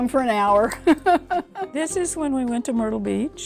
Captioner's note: laughing